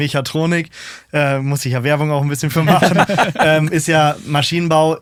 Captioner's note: alle lachen